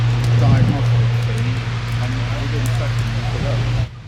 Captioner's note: aircraft engine